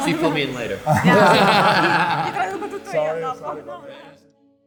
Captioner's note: laughing